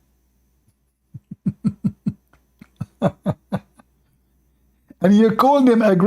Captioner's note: Ketawa